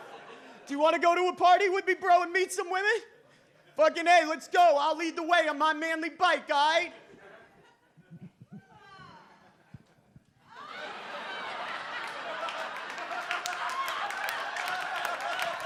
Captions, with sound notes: Do you wanna go to a party with me bro? And meet some women? Fuckin' A, let's go. I'll lead the way I'm on manly bike, guy." (audience laughs) (audience applauds)